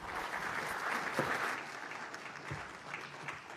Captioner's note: applause